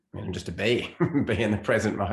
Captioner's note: chuckles briefly